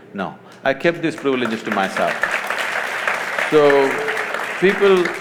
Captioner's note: applause